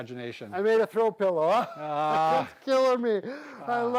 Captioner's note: laughing